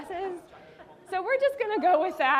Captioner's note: audience laughing